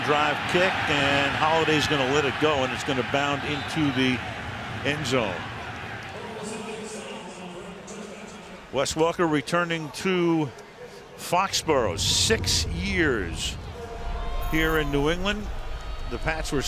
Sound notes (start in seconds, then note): 6.7 pa announcement